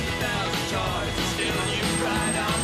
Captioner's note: cars honking